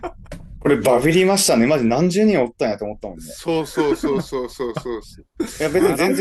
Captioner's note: laughs